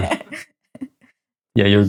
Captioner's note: laughing